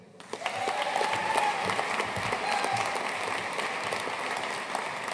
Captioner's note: audience cheering and applauding